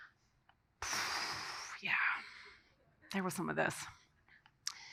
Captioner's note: sighs